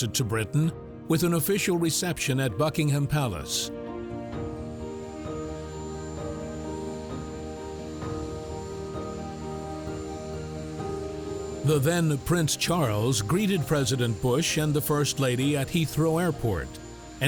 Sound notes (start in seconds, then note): 4.8 bright instrumental music; 4.8 plane turbines droning